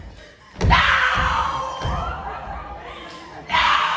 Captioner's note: screams